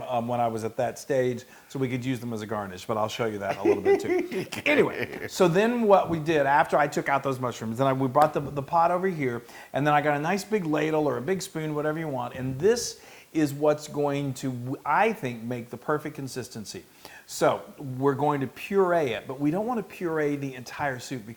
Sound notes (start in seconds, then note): 3.4 laugh